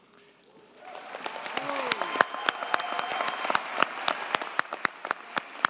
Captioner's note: audience cheers and applauds